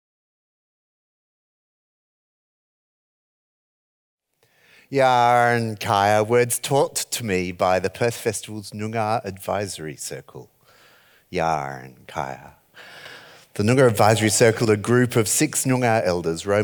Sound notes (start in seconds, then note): 5.2 speaks foreign language; 11.4 speaks foreign language